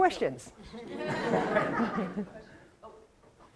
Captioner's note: laughter